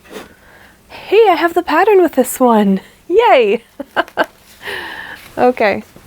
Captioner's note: laughs